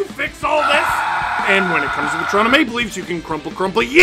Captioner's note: screaming